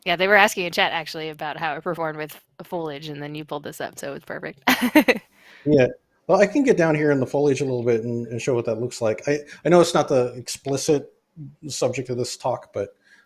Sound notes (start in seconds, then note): 4.6 laughs